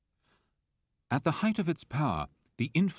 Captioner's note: voiceover